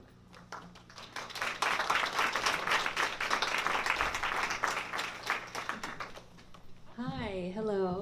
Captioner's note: applause